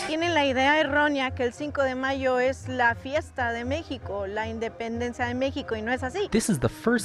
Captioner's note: speaking in Spanish